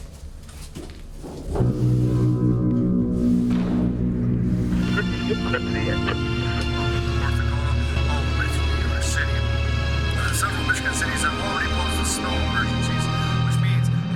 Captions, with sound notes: (dark music blares) (muffled radio rattles) - [Radio Announcer] North Dakota all the way through each US city, several western cities have already posted snow emergencies,